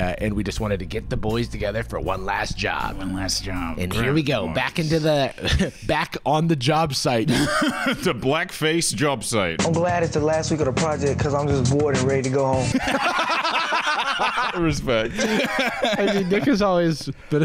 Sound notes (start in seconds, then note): 12.9 laughter